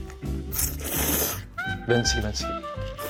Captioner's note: slurp